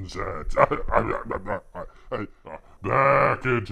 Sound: coughs

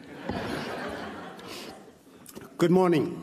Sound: laughs

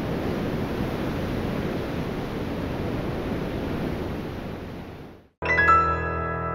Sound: surf roaring

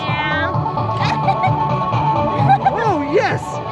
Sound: laughing

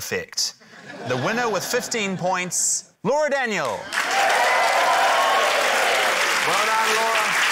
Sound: cheering, applause

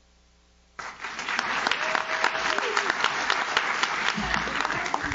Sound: audience claps

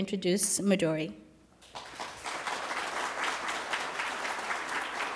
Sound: applause

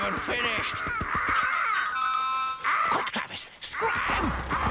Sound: cawing

